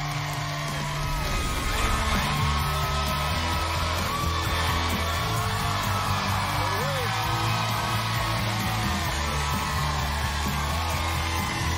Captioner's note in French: cheers & applause